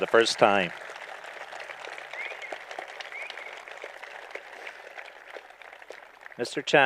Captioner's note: applause